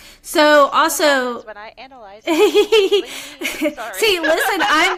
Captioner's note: laughter